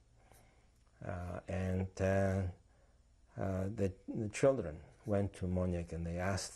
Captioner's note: non-english